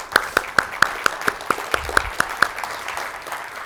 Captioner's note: clapping